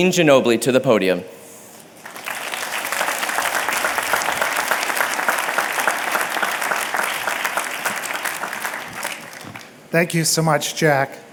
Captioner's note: applause